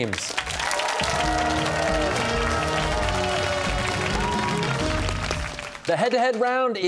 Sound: cheers and applause

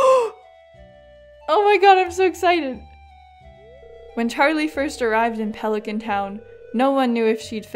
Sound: gasp

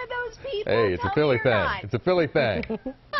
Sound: laughter

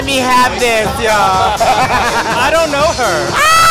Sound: laughs; screams

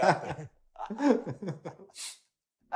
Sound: laughs

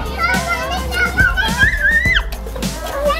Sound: kids talking and shouting

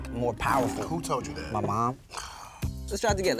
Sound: sighs

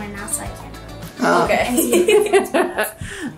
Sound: laughs

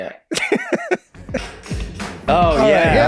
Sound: Charlie laughs

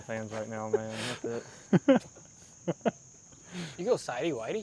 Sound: laughter

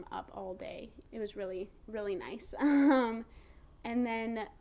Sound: laughs

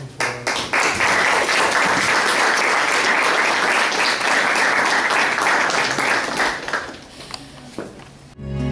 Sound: applause

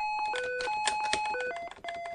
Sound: frantic tapping

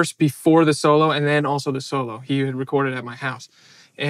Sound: none

